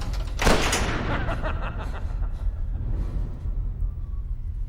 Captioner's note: evil laughter